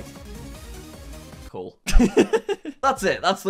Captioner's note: laughs